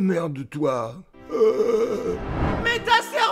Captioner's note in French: Agonie